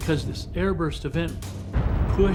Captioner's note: explosion